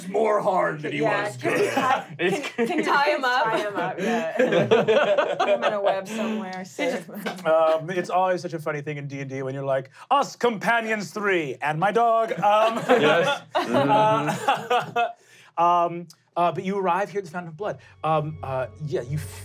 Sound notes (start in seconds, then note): 12.5 laughing